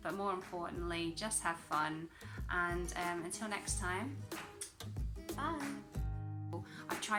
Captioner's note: kiss